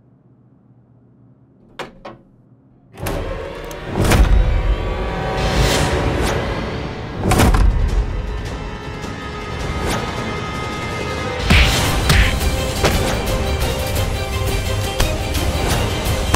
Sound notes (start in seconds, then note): 2.9 lock opening sound; 3.9 shocking music; 6.1 dramatic music; 11.5 beating sound